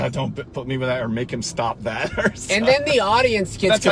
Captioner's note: laughs